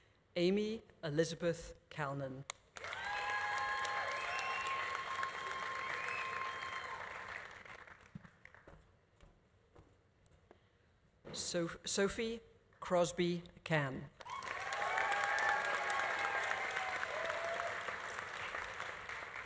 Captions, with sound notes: Amy Elizabeth Calnan. (audience applauding) (audience cheering) Sophie Crosby Cann. (audience applauding) (audience cheering)